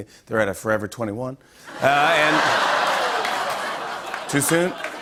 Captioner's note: laughter and applause